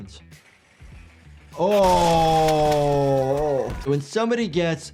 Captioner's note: groans with disgust